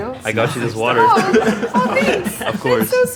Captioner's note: all laughing